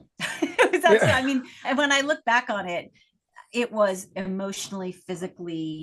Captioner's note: laugh